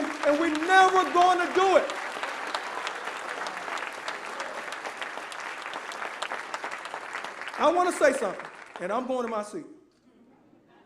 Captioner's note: applause